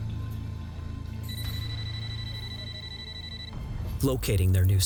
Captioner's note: phone ringing